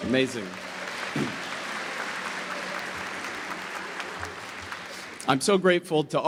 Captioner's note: applause